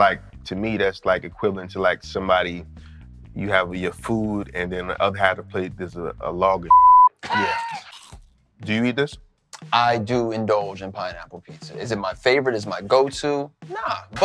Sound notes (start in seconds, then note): 6.6 beep; 7.3 biting sound; 7.3 laughter